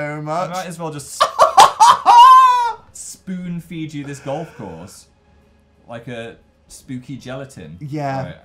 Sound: suprised and gleeful yell

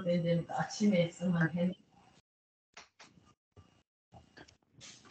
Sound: speaking in foreign language

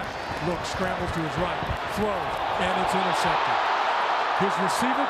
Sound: crowd cheering

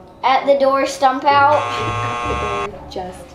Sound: buzzer buzzing

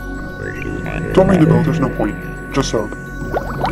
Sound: alien noises; bubbles and underwater foley

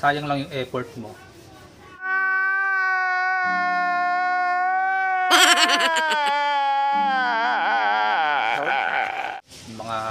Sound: man Crying

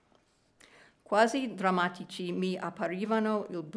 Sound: speaking italian

